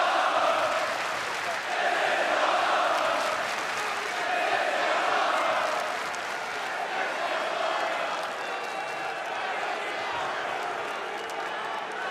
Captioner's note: crowd chanting